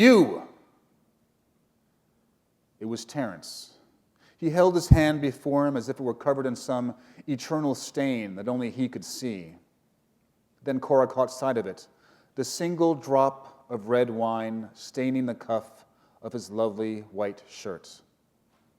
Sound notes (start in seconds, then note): none